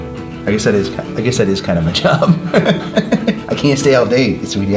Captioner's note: laughs